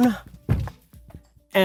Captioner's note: thud